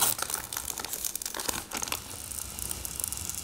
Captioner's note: slow tearing noises